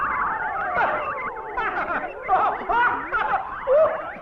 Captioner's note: laughing